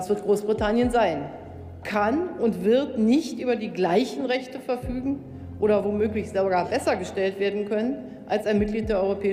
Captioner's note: Chancellor Merkel speaking in German